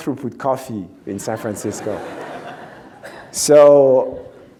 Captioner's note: audience laughs